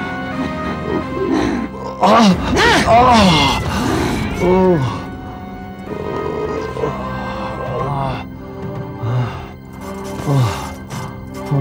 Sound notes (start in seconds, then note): 0.8 groaning in pain